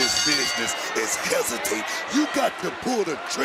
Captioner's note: bell rings